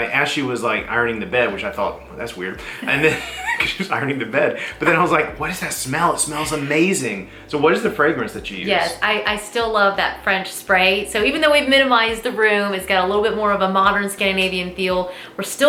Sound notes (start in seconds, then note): 2.6 both laughing